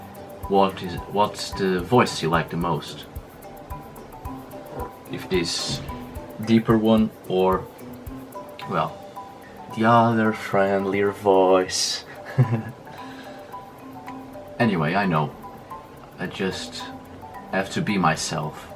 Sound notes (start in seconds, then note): 12.0 giggles